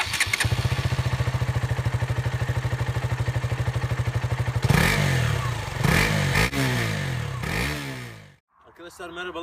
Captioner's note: Engine sounds of KTM Duke 200